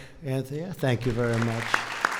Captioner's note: applause